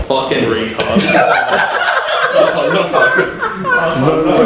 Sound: laughter

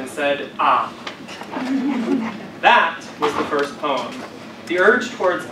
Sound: laugh

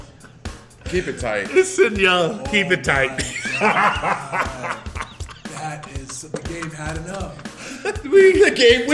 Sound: laugh

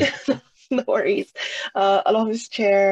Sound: laughs

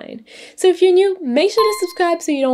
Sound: bell dings

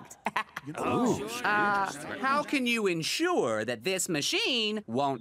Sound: laughs; crowd murmuring

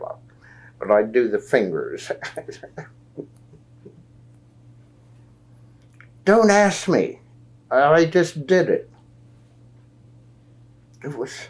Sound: laughs

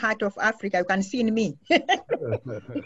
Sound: laughs

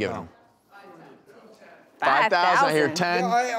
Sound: audience chattering

